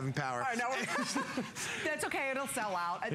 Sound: laughter

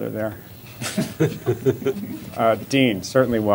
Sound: laughter

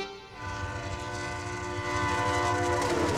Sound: train whistling

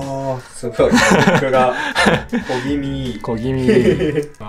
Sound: laughs

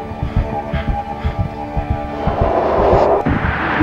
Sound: wheezing....heart beating

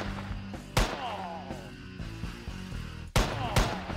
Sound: generic man groaning noise

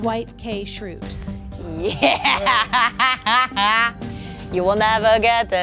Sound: laughs

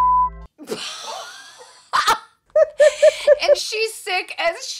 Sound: laughing

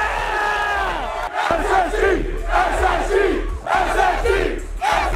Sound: crowd

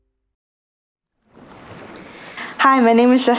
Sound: waves crash

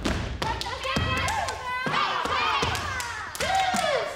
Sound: group cheers

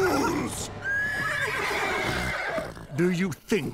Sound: neighing

